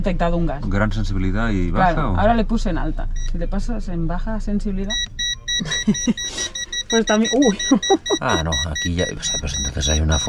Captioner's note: pip, pip, pip, pip